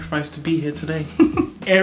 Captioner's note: chuckles